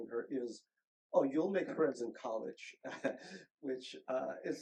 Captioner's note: chuckles